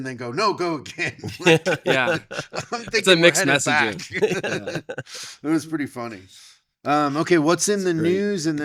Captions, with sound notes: and then go, no, go again. (laughing) Yeah. It's a mixed messaging. I'm thinking we're heading back. (laughing) It was pretty funny. Okay, what's in the news?